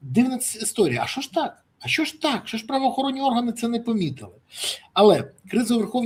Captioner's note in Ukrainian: сопіння